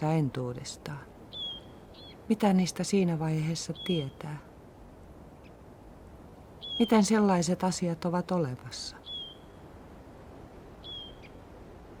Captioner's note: bird cries